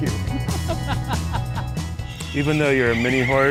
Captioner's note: laughing